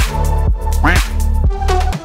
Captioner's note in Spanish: Sonido de pato